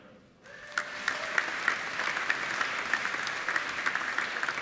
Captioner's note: applauding